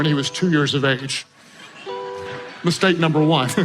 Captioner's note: crowd laughing